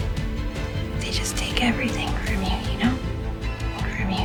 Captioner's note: voiceover